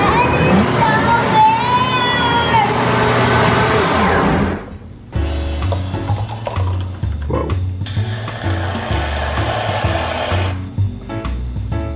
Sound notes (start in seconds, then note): 0.0 blender whirring; 5.1 jazzy playful music; 7.8 whipped cream spraying